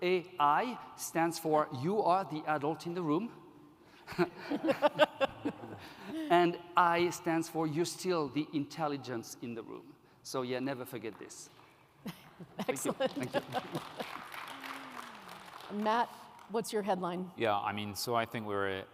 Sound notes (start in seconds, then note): 12.4 laughs; 12.7 applause